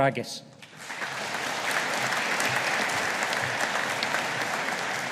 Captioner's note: audience applauding